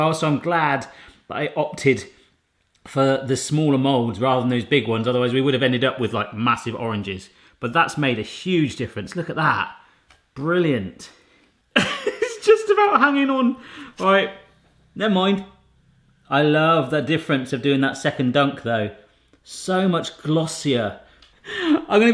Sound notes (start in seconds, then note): 11.8 laughing